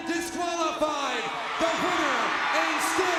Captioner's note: audience cheers